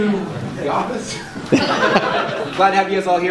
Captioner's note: laughter